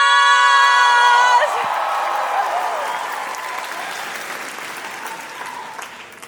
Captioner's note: cheering; applause